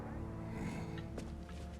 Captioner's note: grunt